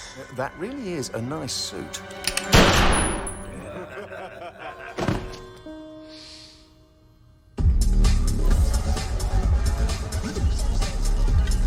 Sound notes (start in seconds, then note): 2.5 gunshot; 3.5 laughter